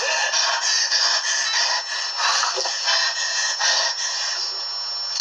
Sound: Breaths heavy because he's raging to play Roblox

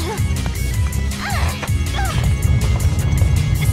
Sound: both grunt

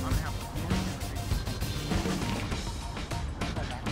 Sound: distant talking

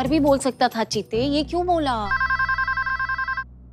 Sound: phone ringing

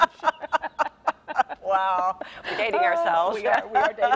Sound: laughing

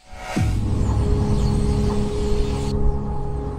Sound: birds chirping

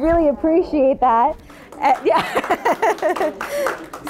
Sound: audience claps; laughs

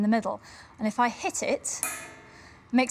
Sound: echoey tap

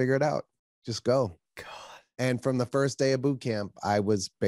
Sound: sighs

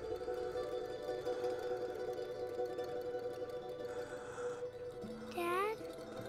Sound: noises and clanging

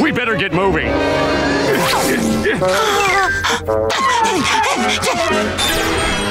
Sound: grunting; music playing, arcade noises

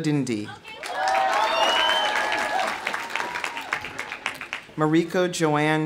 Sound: audience cheering; audience applauding

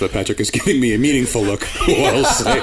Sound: laughter

